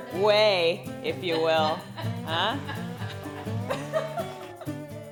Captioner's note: laughs